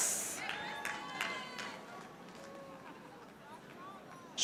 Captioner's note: audience applauding